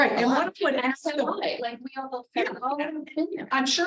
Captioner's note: board members chattering indistinctly